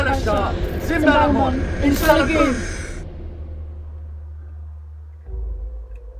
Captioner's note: Alan speaking in foreign language; both speaking in foreign language; eerie music